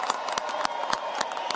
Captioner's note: applause